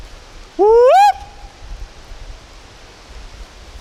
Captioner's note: whooping